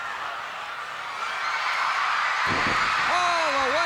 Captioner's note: crowd cheers